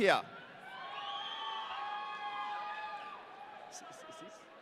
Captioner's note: audience cheering